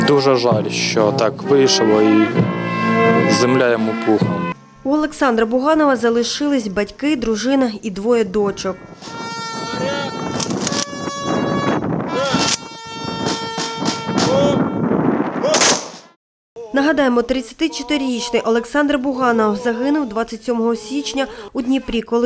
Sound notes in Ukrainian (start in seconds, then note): 10.3 лунає звук затвору; 15.4 лунають постріли